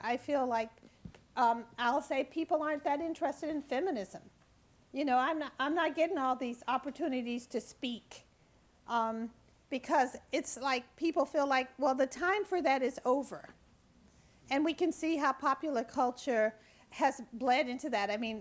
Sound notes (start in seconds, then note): none